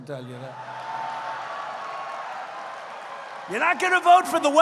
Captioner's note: laughter and applause